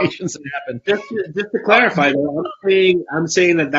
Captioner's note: laughs; mic warbles